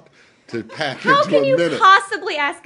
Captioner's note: laughter